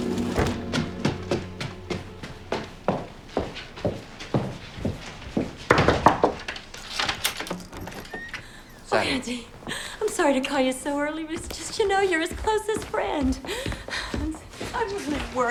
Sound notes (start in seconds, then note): 4.6 knocking